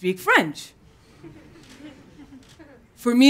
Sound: laughter

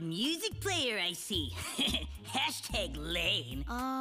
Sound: chuckling

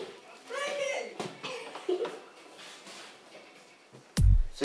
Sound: high voice; giggles

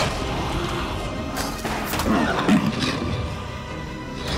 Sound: thudding; gun banging

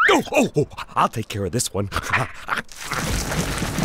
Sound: panting

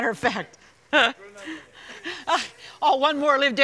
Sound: laughs

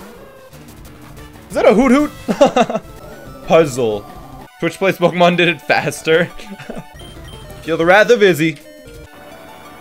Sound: laughs

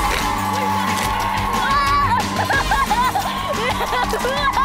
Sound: laughing

